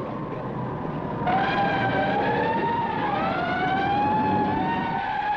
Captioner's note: sirens wailing